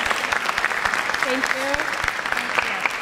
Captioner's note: applause